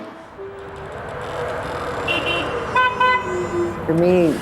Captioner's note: streetcar noise and honking